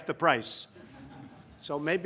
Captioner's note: laughter